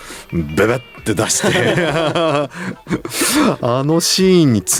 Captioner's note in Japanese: 笑い